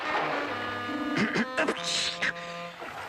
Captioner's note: fish clearing throat